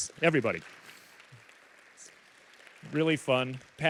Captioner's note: applause